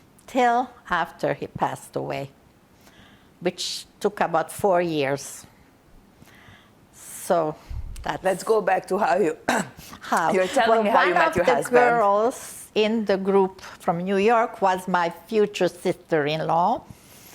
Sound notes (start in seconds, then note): 9.5 clears throat